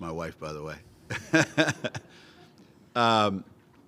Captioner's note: laughter